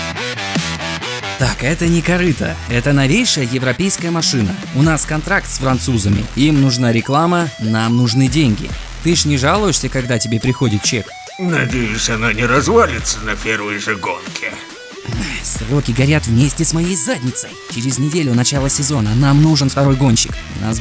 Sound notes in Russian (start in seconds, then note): 15.0 кряхтит